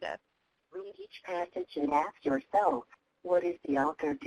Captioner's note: voiceover